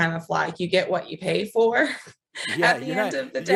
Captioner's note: laughs